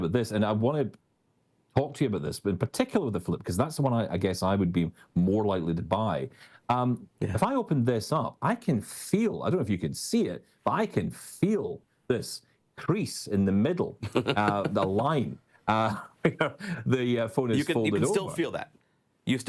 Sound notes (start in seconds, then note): 14.0 laughs